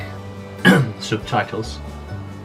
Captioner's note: cough